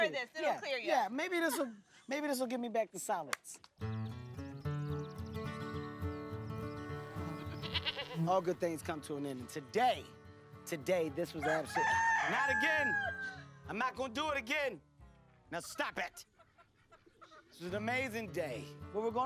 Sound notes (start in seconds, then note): 11.4 loud crowing